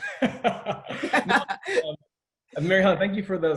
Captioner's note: laughing